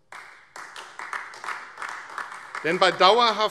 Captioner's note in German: Beifall AfD